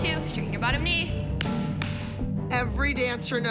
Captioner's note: claps